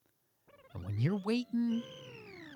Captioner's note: laser beeping